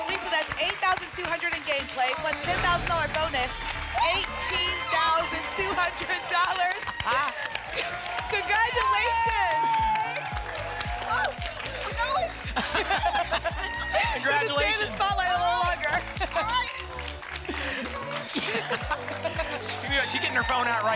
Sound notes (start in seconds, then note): 6.0 applause and cheering; 10.2 applause and cheering cont; 12.4 laughter; 16.9 applause and cheering cont